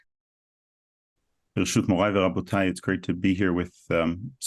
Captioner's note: speaking Hebrew